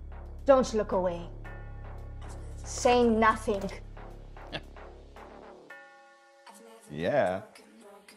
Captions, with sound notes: Don't look away. Say nothing. (chuckles) - Yeah.